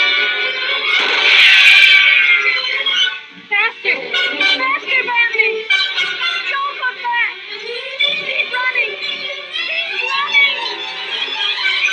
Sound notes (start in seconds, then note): 0.9 gunshot